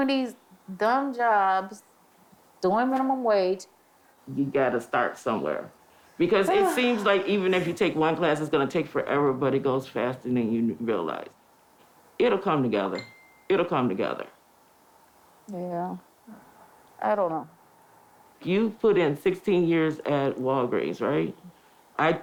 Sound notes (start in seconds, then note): 6.5 sighs; 13.0 phone chimes